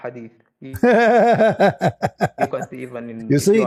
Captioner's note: Ketawa